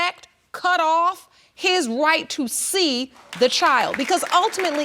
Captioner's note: audience applauds